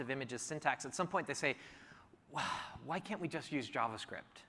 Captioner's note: sighs